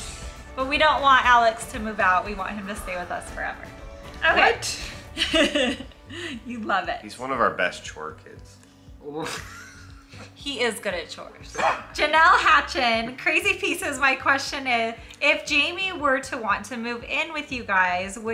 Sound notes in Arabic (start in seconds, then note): 5.1 يضحك; 9.2 يضحك